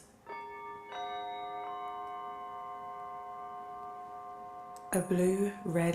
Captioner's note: chime ringing melodically